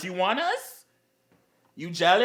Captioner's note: gay Silence Once More Because He Knows He's Right